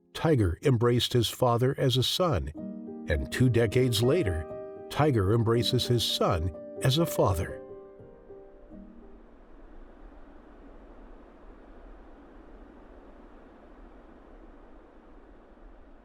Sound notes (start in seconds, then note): 9.1 ambient air whooshing